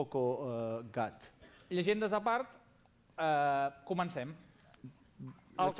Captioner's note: non-english speech